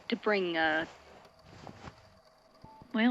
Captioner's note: fabric rustling